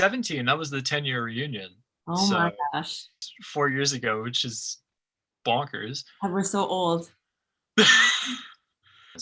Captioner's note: laughs